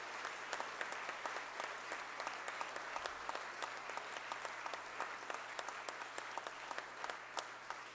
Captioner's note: applause